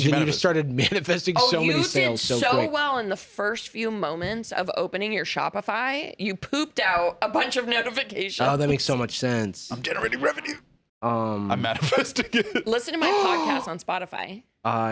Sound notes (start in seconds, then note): 10.1 straining